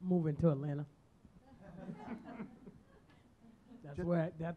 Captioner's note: audience chuckles